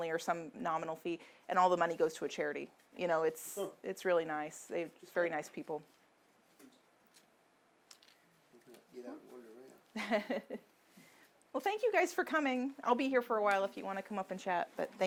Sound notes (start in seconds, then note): 9.9 laughs